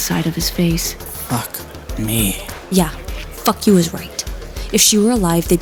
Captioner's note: hissing